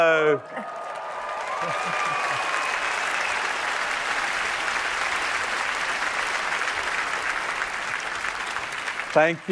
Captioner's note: applause